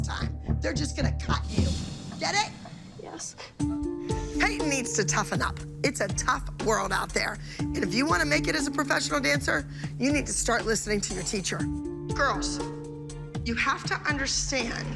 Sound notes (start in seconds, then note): none